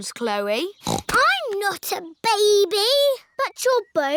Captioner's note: snorts